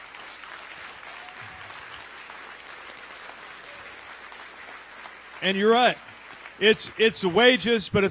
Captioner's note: applause